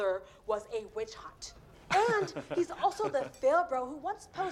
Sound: kendall laughs

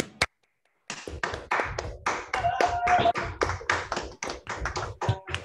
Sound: applause

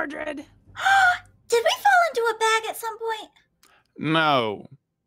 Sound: gasps

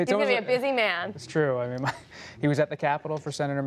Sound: laughter

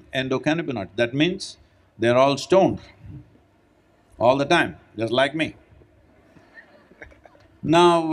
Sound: laughter

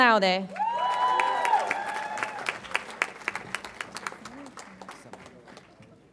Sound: audience applauds and cheers

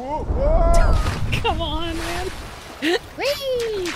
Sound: quiet Laugh

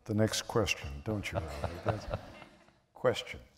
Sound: laughter

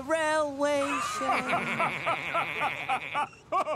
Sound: the engines laugh

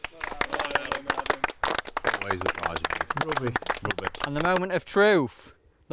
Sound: applause; mumbles

